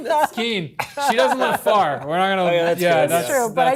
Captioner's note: laughter